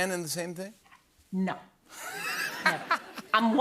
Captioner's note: laughter